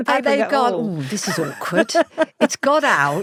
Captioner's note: laughs